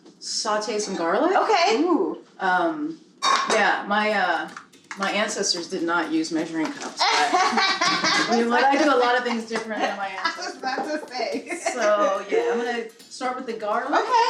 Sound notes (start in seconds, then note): 7.0 laughing